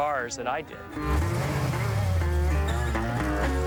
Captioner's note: engine revving